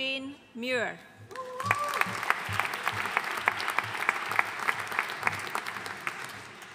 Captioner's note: audience cheering and applauding